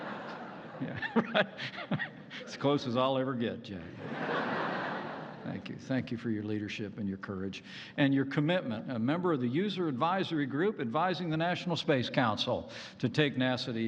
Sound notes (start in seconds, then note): 0.0 laughs; 3.9 laughter